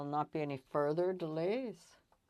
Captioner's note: speaking French